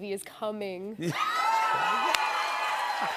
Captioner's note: cheers and applause